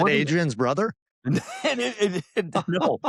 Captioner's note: laughter